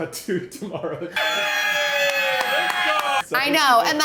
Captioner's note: crowd cheering